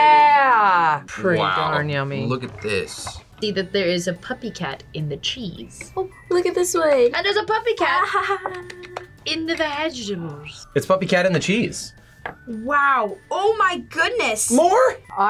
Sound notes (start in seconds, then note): 8.4 claps